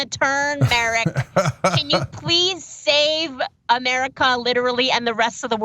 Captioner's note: laugh